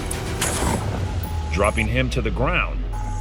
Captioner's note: gunshots